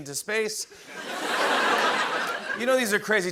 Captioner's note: laughter